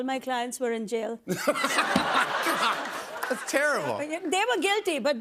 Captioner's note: laughs